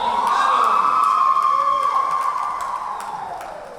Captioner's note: cheering